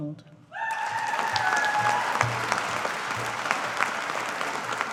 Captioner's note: audience applauding